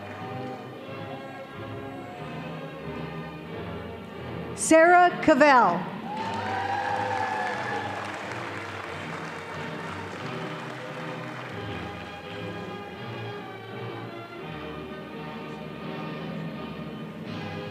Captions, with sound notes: - Sarah Cavell. (audience applauding)